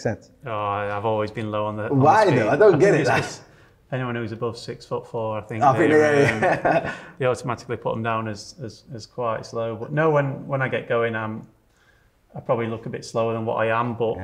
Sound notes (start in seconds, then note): 5.6 laughs